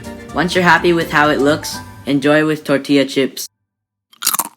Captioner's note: crunch